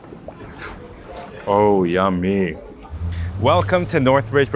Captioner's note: food bubbles; slurps